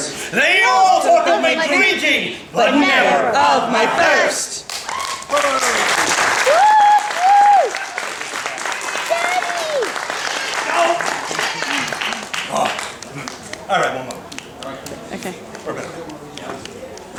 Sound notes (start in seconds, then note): 4.6 applause